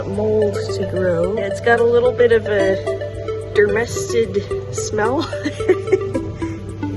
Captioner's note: laughs